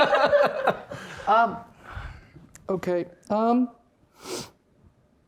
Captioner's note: players laughing; sniffs